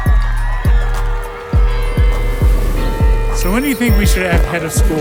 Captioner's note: clock tower bell ringing